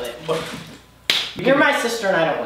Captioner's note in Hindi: हाथ ताली